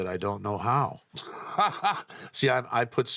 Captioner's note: laughs